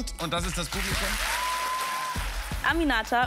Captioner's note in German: Jubel, Applaus